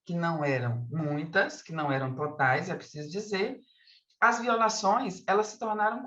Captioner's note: continues speaking in Portuguese